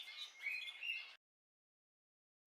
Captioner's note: birds singing